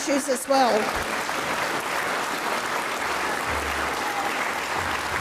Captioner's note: audience applauds